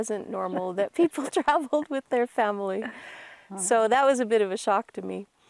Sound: laughs

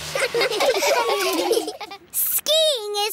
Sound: laughing

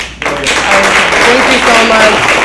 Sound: audience applauds

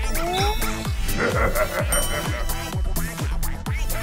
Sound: laughter

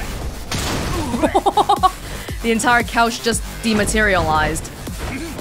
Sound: chuckles

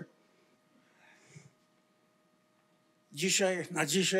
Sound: foreign language

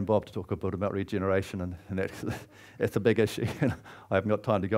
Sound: laughs

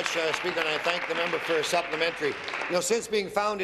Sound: applause

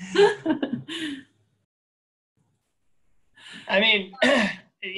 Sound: laughs

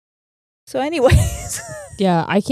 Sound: laughs

